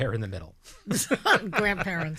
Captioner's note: laughing